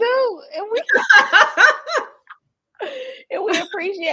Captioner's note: laughing